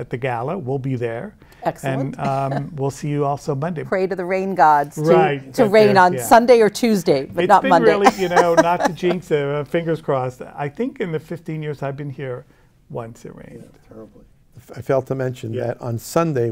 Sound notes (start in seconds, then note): 7.6 laughs